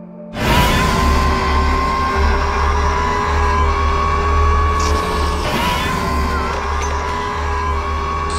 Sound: Scorpius Rex Screeching Loudly

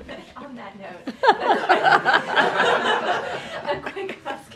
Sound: laughter

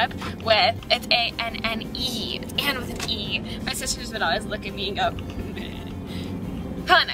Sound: laughs

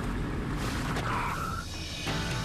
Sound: braking

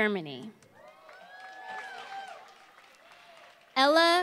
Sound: applause

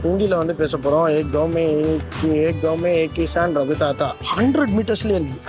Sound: speaking in Hindi

